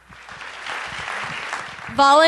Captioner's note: applause